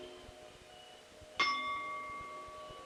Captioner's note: bell Sound